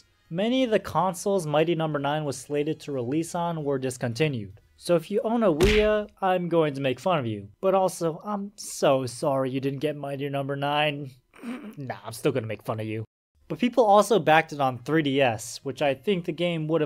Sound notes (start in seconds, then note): 11.4 snicker